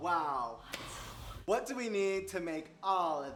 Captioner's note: gasping